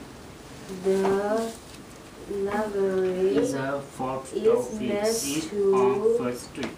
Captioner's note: voiceover